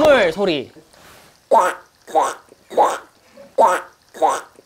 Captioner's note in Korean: 꽥 꽥 꽥